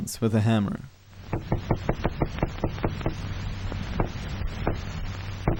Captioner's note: hammer thumping